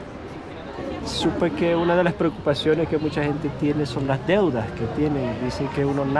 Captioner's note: speaking in foreign language